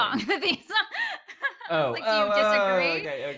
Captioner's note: laughter